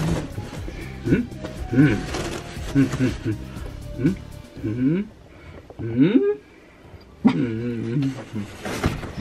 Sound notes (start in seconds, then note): 2.6 dad humming